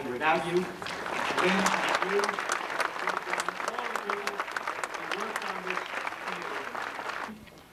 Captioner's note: applause